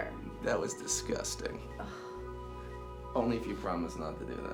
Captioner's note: Ashley scoffs